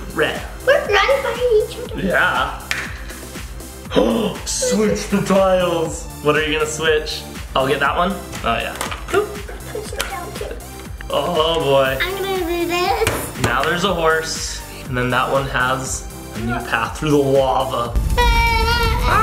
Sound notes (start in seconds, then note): 2.9 gasping for air